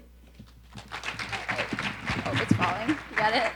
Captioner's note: audience applauding